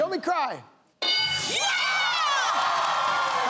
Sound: bell dings

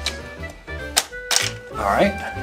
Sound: toy clicks

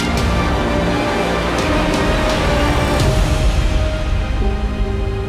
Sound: wind blowing

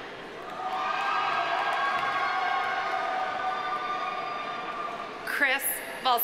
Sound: audience cheering; audience applauding

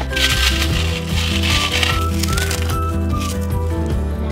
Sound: pork rinds crunching

